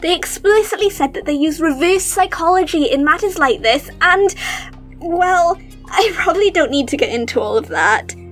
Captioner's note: laughs